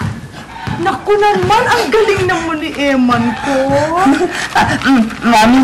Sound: giggles

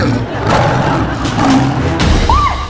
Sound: roaring; screaming

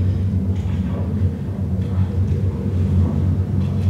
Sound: faint noises like railway tracks

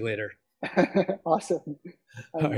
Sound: laughs

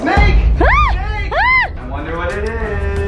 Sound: screams

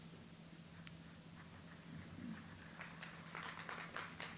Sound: audience applauds

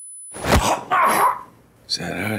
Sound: punching

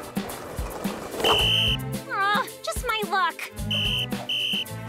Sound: whistle blows; sighs; whistle blowing

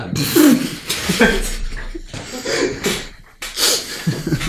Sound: laughter

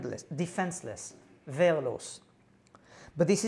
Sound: non-english

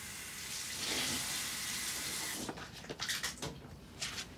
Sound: water splashes

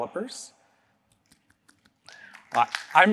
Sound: applause

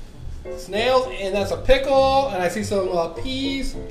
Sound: voiceover

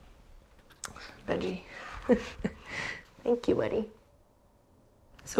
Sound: laughs

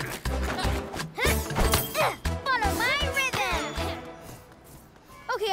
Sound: grunts

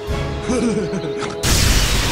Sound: nerd laugh

